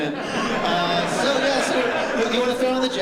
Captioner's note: laughter